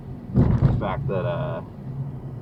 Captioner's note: big bump